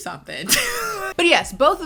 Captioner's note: laughs